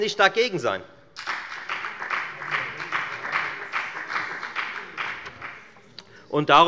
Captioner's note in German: Beifall bei der FDP